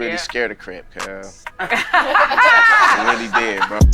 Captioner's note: group laughing